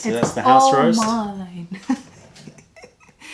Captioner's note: laughter